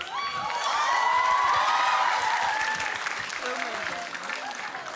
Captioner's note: applause, cheering